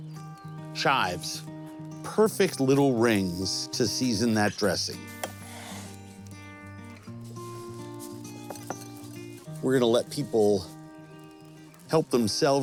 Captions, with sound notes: Chives, perfect little rings to season that dressing. (knife sliding) (warm music) We're gonna let people help themselves to this,